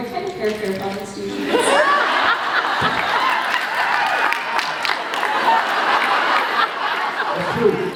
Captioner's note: laughs, applauds